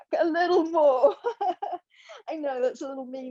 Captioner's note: laughing